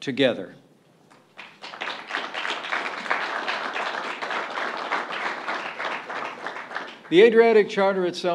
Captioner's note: applause